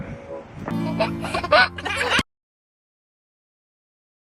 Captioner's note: kid giggling